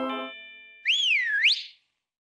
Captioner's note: whistles